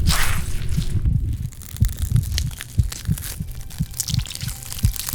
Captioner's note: simultaneous heartbeats